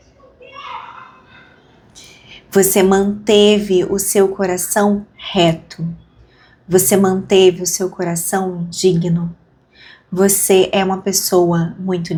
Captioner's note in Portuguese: suspirando